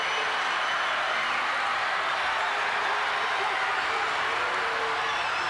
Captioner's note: audience continues cheering